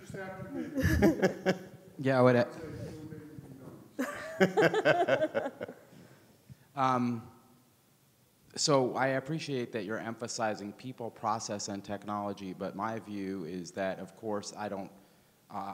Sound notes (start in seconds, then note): 0.6 speakers laugh; 4.0 speakers laugh